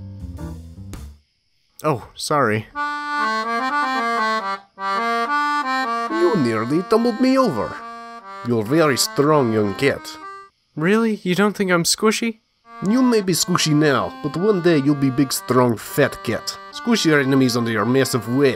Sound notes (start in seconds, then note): 5.7 Russian accent